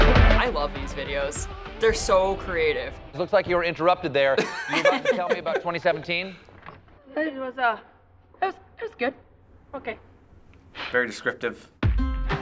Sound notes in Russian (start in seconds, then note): 4.4 оба смеются